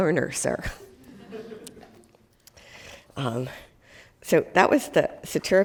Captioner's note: class laughing